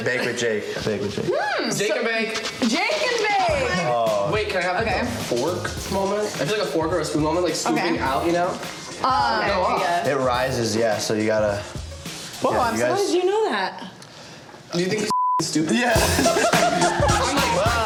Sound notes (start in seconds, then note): 15.1 beep; 16.0 laughs